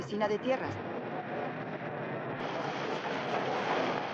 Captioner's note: horse cantering